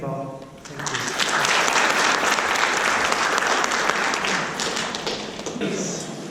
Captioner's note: applause